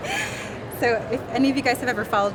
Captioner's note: laughing